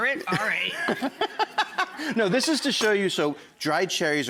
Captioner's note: laughing